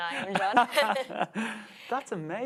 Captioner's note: both laughs